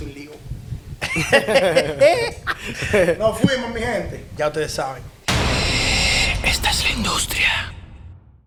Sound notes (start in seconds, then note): 1.0 laughs